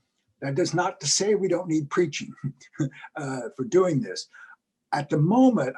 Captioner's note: laugh